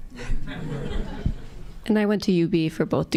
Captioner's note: audience laughing